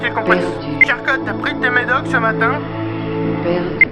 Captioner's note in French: bip